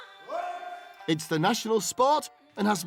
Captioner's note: shouts